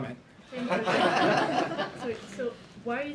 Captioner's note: laughter